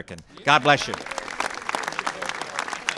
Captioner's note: applause